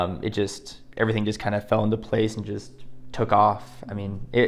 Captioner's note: none